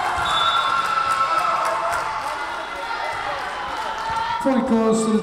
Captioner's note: Tigers cheering; whistle blowing